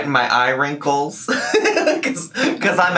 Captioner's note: laughs